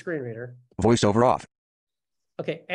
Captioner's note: voiceover